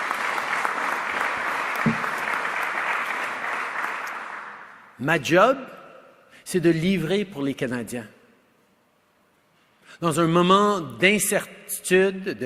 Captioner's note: applause